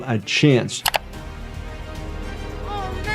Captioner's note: screen clicking